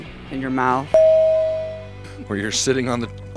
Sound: bell

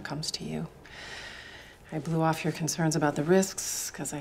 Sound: inhales deeply

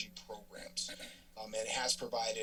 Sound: clears throat

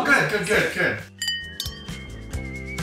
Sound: glasses clink; upbeat indie music

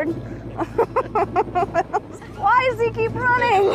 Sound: laughs

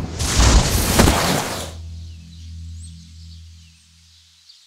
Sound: boots hitting floor

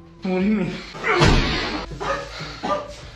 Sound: Jackie coughing in pain; crotch-kneeing sound, slowed

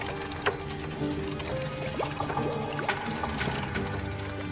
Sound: water bubbling

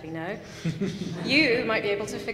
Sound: laughing

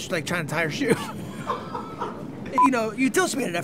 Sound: laughter

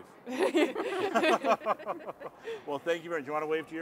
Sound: all laughing

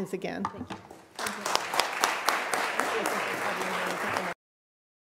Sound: applause

